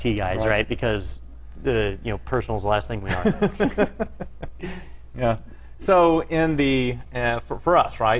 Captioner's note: laugh